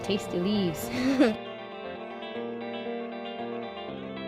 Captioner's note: girl giggling